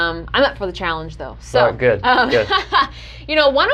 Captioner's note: laughing